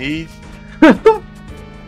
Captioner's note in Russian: выдох